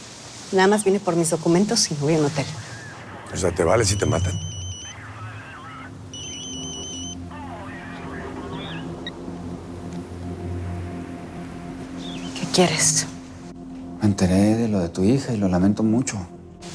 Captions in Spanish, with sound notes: NADA MÁS VINE POR MIS DOCUMENTOS Y ME VOY A UN HOTEL. - O SEA, ¿TE VALE SI TE MATAN? [Suena un celular] - ¿QUÉ QUIERES? - ME ENTERÉ DE LO DE TU HIJA Y LO LAMENTO MUCHO.